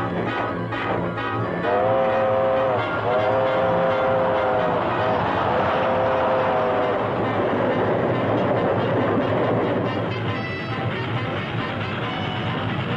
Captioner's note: train whistles